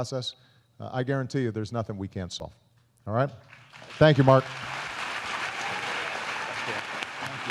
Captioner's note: applause